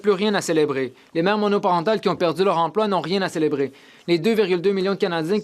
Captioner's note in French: voix de l'interprète